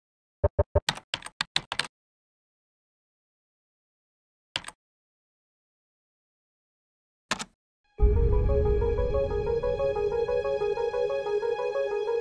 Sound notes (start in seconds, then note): 1.1 keyboard clicking; 8.0 suspenseful dramatic music